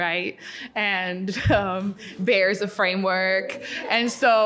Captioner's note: audience laughing